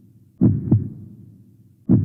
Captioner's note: heartbeat